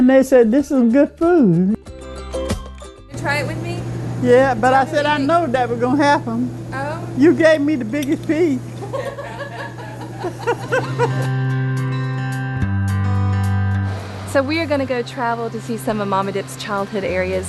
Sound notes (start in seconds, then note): 8.7 laughter; 10.2 calm music